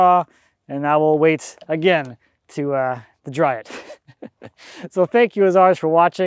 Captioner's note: laughing